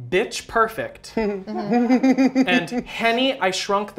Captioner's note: laughter